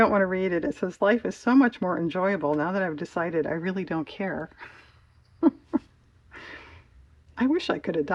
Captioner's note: laughs